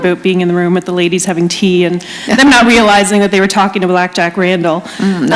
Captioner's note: laughter